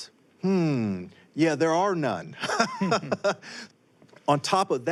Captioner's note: laughs